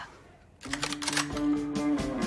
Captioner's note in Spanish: Sonido de carga escopeta